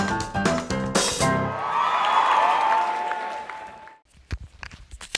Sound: applause

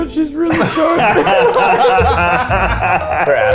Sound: laughs

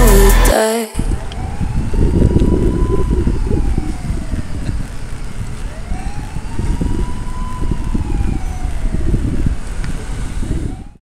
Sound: sirens blaring

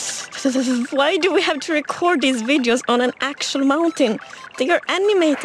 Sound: shivering

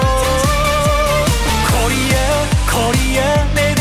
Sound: slap

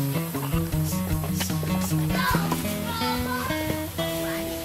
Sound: kids chatter

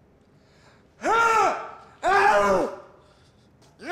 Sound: grunts and yells gibberish

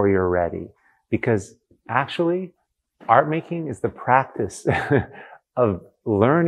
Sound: laughs

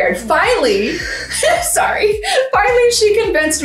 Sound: women laugh

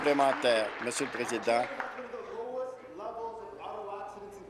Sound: applause

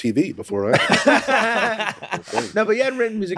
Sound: all laughing

